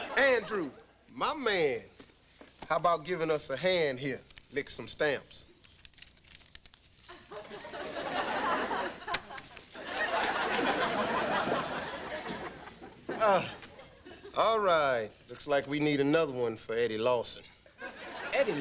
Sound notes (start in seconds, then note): 9.1 audience laughing; 9.1 stamps smack